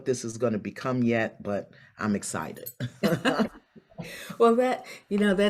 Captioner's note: both laugh